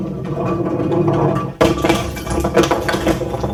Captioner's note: ice thuds